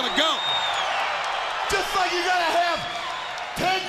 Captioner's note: crowd cheering